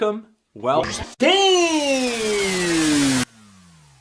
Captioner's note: lowering in pitch